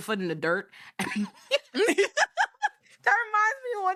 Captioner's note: laughing